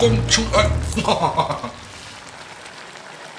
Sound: laughing

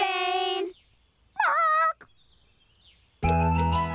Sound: squawks

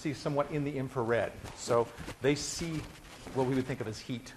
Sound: none

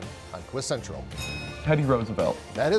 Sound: bell chimes

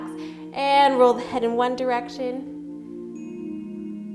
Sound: exhales

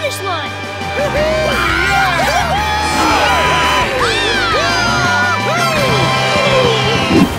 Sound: cheering

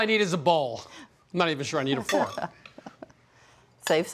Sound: laughs

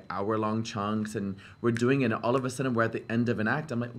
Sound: snaps

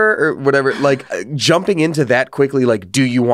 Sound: laughs

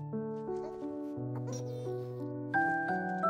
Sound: giggles

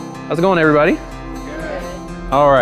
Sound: crowd Reponse

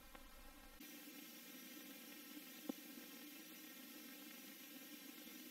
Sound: analog film/TV static

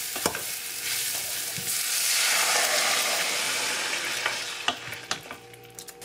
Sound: water goes in

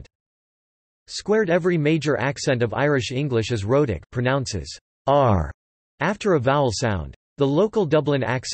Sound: pronounces "r" after a vowel sound

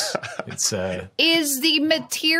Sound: chuckles

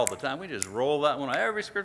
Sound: snaps fingers

